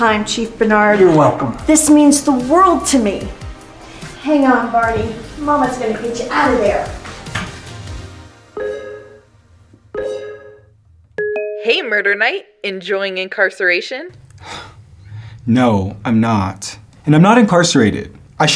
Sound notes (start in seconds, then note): 8.5 laptop beeping